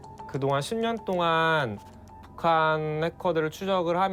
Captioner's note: speaking Korean